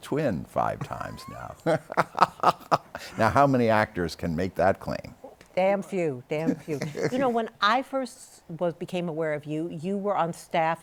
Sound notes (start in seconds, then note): 0.8 laughter